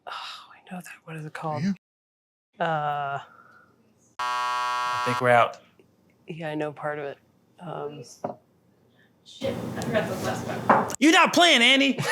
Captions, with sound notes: Oh, I know that. What is it called? Yeah. Uh. (buzzer) I think we're out. Yeah, I know part of it. Shit, I forgot the last one. You're not playing, Annie.